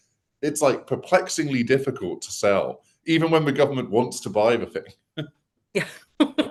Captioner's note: laughs